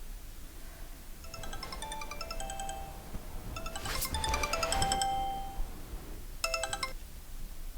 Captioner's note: phone ringing